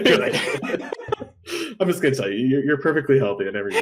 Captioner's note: laughs